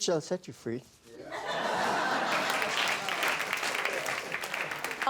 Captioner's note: laughter and applause